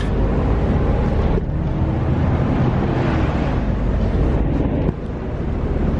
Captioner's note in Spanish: sonido ambiente del bus